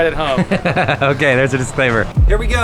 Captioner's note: laughs